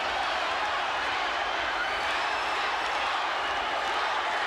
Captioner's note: crowd cheering